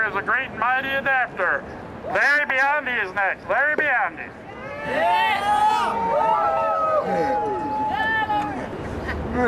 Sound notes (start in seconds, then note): 4.5 crowd cheers